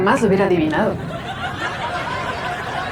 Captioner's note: risas